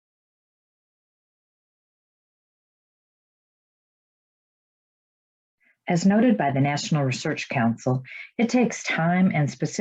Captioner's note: silence